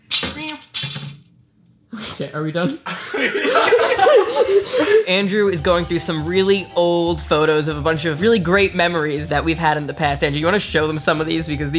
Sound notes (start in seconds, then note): 2.8 laughter